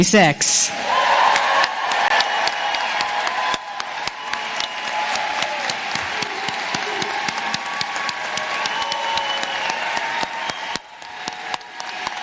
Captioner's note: cheers and applause